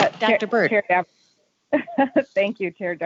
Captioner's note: laughing